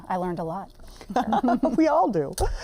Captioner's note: both laugh